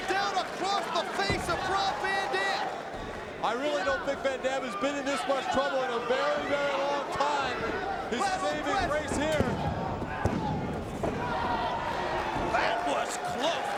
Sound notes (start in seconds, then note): 8.8 mat slapping; 11.5 crowd cheering